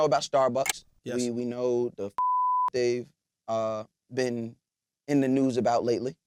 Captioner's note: beep